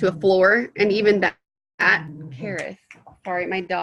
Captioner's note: dog growling